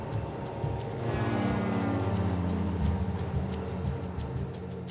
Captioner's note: engines droning